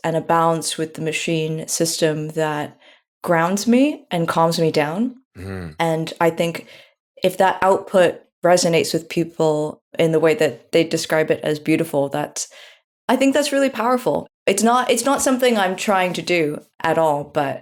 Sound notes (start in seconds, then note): none